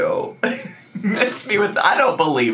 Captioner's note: laughs